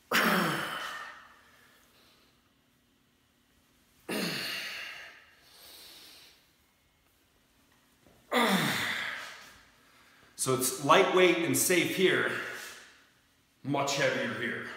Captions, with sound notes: (grunting) (grunting) (grunting) So it's lightweight and safe here, much heavier here.